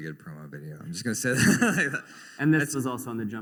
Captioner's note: laughter